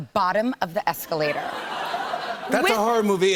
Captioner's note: laughter